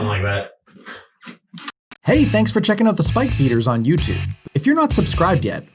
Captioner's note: voiceover